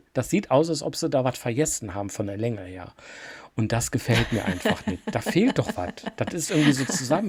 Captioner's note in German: gelächter